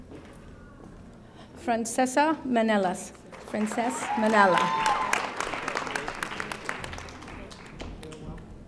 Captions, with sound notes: Francesse Menelas. (audience applauding)